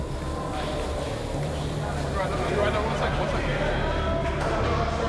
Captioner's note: chatter